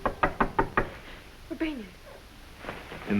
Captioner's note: door knocks